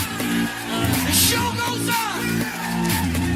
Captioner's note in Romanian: Aplauze